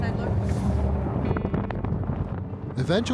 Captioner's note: wind whooshing